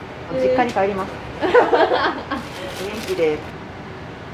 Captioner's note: laughter